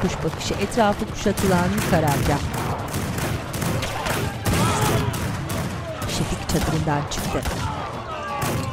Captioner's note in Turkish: Silah sesleri; Bağrışma sesleri